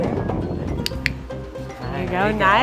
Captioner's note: click